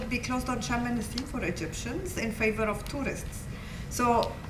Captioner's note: non-english